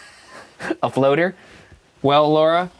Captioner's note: laughs